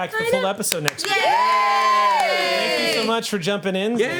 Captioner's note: group cheers